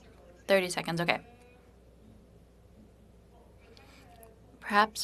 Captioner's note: speaking French